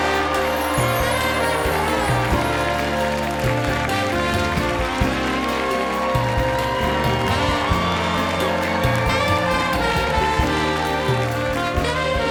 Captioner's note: cheers and applause